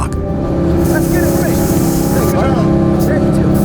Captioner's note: engine idle